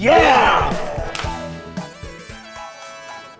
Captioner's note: clapping; triumphant music